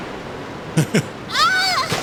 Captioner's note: laughter